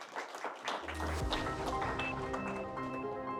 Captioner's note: attendees clapping; bright music